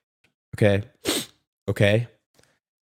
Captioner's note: sniff